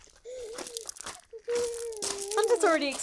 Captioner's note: laughs